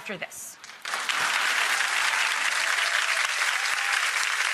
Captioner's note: audience claps